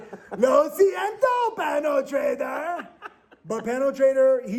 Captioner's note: laughing; speaking in Spanish